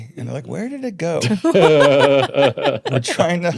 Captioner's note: laughing